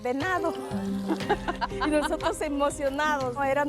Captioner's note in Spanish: Risas